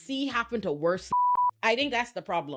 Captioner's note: beep